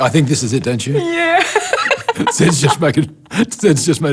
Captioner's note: laughs